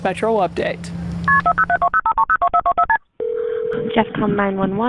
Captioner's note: telephone buttons beeping